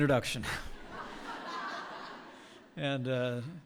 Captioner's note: laughter